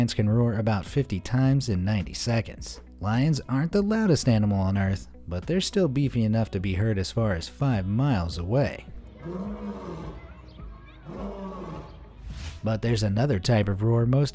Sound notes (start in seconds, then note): 9.3 lion roars